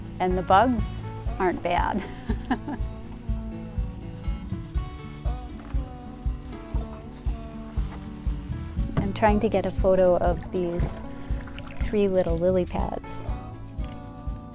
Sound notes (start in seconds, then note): 2.0 chuckles; 5.5 camera shutter